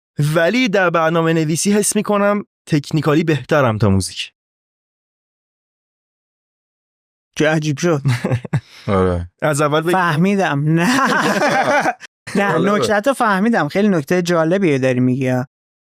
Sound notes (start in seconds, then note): 10.8 laughs